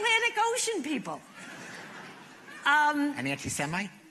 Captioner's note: laughter